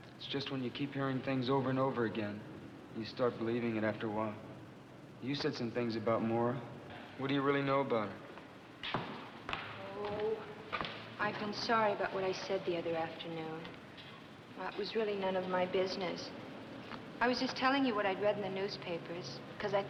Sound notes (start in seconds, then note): 8.9 Ellen's footsteps